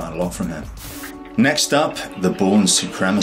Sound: air whooshes

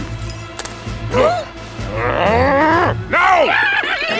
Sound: growling

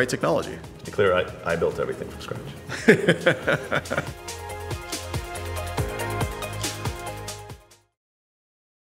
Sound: laughs

